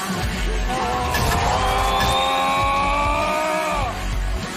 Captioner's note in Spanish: grita